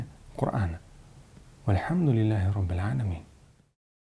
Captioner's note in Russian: Говорит на арабском